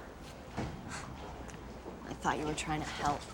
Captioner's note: scoffs